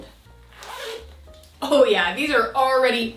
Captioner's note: zipper whooshing